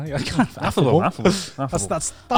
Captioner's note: chuckling